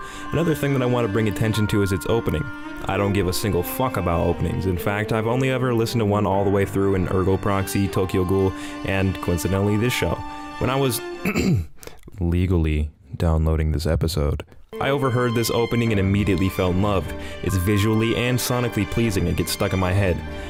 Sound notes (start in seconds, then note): 11.2 coughing